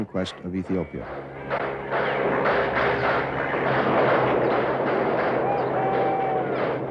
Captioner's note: explosions; gunfire